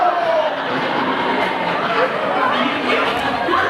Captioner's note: imaginary audience applause